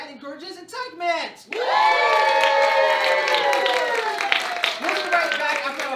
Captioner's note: cheering